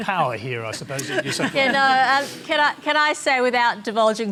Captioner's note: laughter